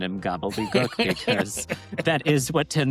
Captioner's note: laughs